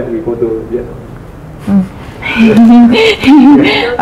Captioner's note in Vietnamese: cười